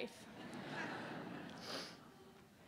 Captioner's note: laughter